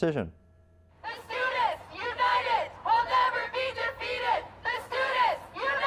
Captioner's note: chanting